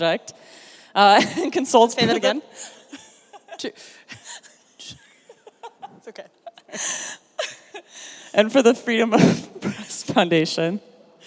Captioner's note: laughs